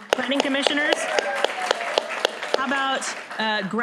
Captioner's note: applause